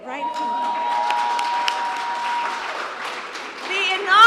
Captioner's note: applause